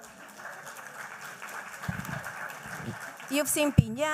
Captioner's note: applause